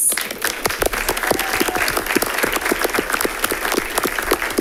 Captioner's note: audience applauding